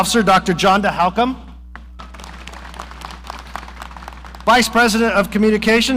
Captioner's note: audience applauding